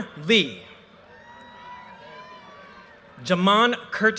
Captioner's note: audience cheers and applause